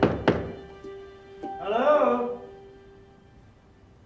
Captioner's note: man's voice